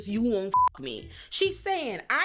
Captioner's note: beep